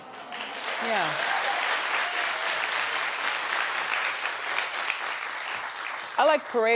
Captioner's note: audience clapping